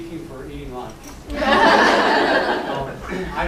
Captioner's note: laughter